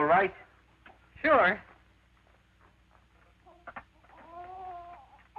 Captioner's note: kisses; baby wailing